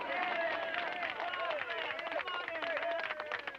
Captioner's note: crowd clapping and cheering